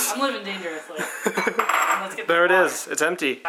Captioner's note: laughs